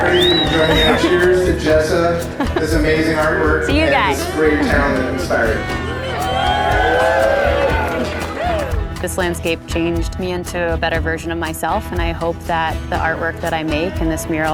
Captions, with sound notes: - Everybody, cheers to Jessa, this amazing artwork, and this great town that inspired it. (people cheering) - This landscape changed me into a better version of myself, and I hope that the artwork that I make and this mural